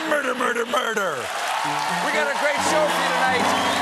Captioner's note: cheers and applause